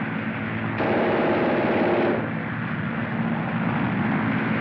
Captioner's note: machine Gun Fire Continues